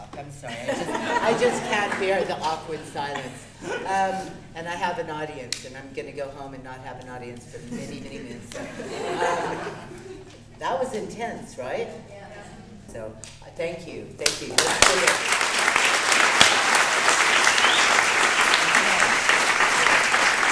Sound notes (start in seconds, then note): 0.4 people laughing; 14.2 clapping; 16.6 audience clapping